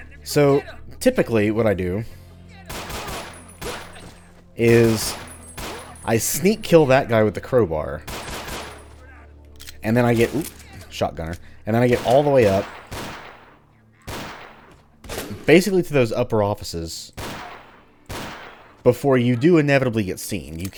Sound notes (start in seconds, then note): 2.6 Glock firing; 9.4 reloads